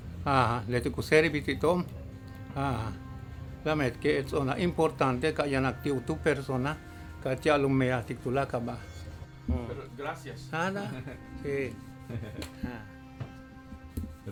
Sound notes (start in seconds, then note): 10.0 speaking Spanish; 11.2 speaking Mayan